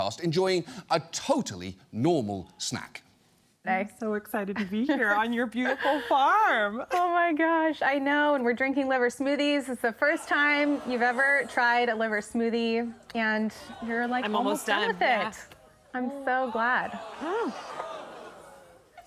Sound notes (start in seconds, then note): 16.4 studio audience groans